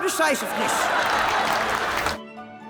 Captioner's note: all cheering